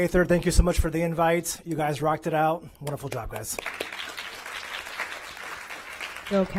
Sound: applause

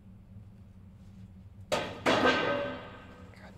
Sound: trash bin thuds

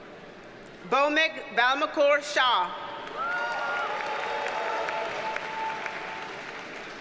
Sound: audience cheers and applauds

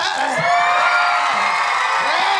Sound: cheering

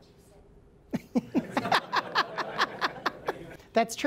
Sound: laughter

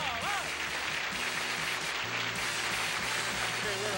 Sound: applause

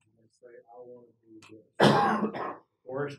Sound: cough

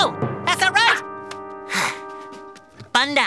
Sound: sighs

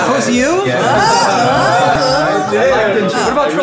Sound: group cheering

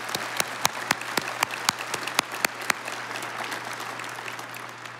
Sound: audience applauding

